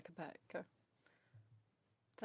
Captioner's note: speaking in French